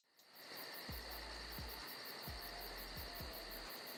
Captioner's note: crickets chirping